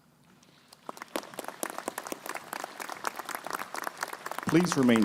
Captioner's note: crowd applauding